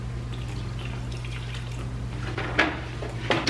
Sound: milk pouring

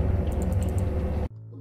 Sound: obsessive clicking

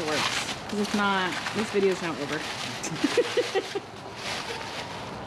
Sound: laughs

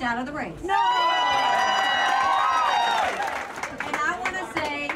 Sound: applause

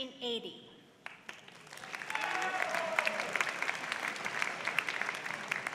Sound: applause

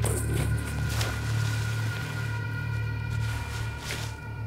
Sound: sand swishing

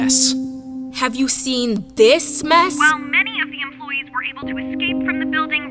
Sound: voiceover

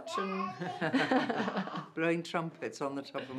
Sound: laughing

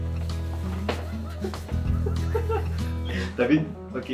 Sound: laugh

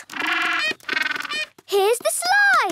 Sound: honking

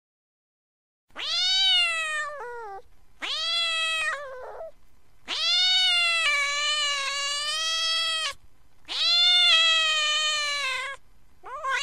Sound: angry cat sound

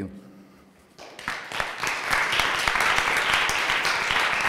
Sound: applause

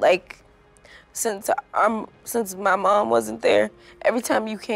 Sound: voice breaking

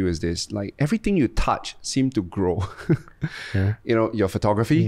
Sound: laughs

